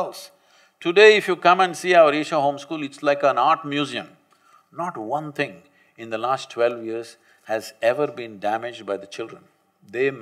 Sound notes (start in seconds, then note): none